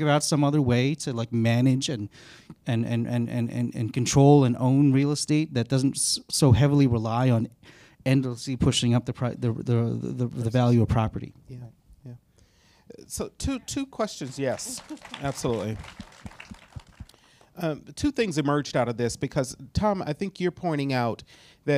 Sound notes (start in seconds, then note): 16.1 audience applauds